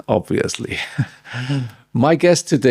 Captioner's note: laugh